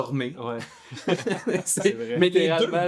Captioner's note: laughs